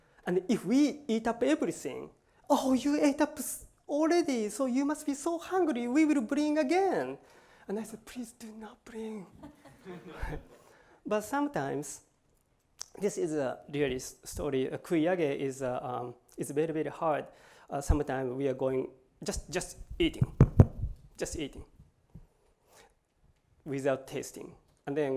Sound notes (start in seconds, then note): 9.3 laughter; 14.7 japanese